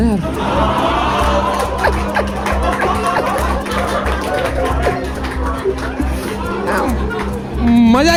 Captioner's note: audience laughing